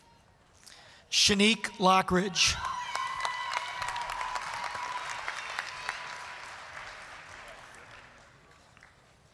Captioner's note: applause